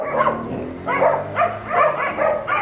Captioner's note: lots of barking